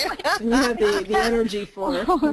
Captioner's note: laughs